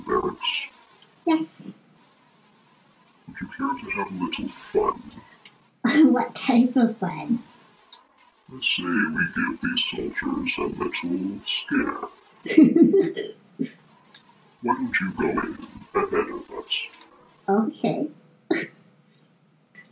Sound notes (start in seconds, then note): 6.9 giggles again; 14.6 chortles